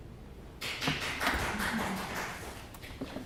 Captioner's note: clapping